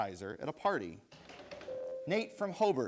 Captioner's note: bell rings